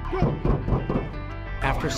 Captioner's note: pounding on roof